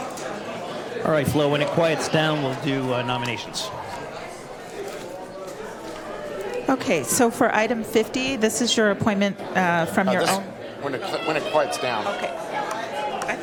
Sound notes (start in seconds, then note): 3.5 crowd Noise